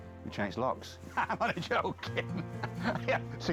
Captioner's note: laughs